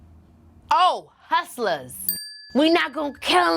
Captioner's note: bell dings